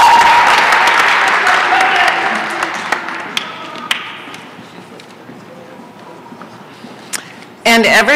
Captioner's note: applause